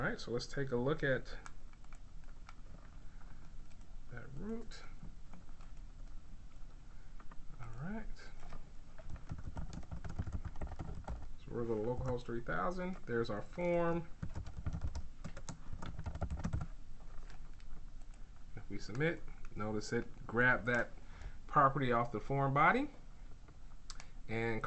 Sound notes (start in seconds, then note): 4.3 typing sounds